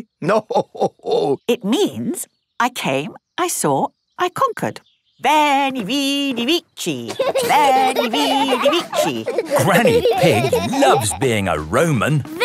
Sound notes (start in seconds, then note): 6.5 laughing